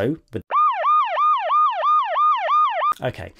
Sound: siren

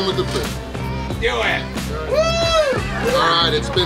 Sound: cheering

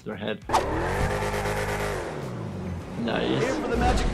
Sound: engine revving

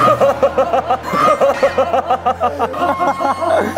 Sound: suppressing laughter

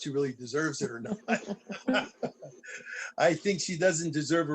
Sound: laughter

